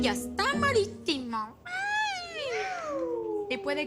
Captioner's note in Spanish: Exclamaciones